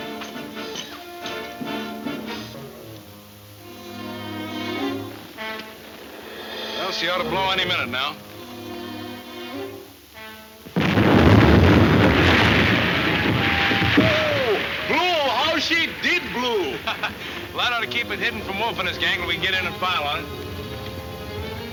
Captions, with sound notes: (suspenseful music) - We'll she ought a blow any minute now. (explosion) - Woo hoo hoo! - Blew! How she did blew! - Well that ought to keep it hidden from Wolf and his gang til we can get in and file on it. - Let's went.